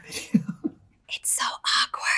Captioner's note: giggles